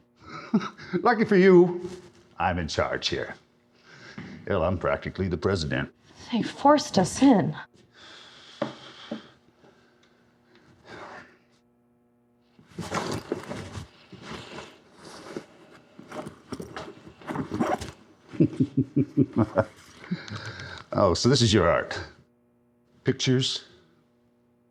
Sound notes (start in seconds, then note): 0.2 snickering; 7.9 exhaling; 12.6 shuffling through backpack; 18.3 snickering